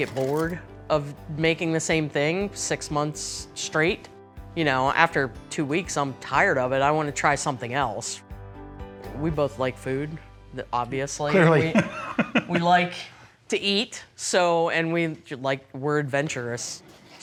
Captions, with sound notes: bored of making the same thing six months straight. You know, after two weeks, I'm tired of it. I want to try something else. We both like food, obviously. [LAUGHTER] We like to eat. So- and we- like, we're adventurous.